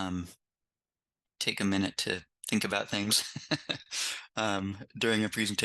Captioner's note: laughs